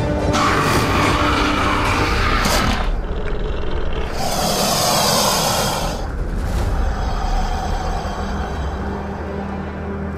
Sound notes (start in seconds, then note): 0.0 spinosaurus Attack Sounds; 4.2 Sarcosuchus Hiss and Growl Sounds